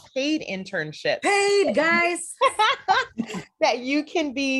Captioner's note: excitedly